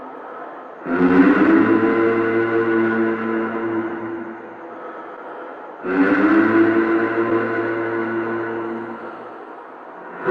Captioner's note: humming sound